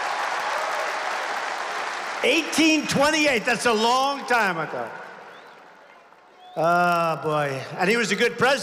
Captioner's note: applause